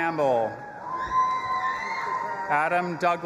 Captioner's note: audience applauding and cheering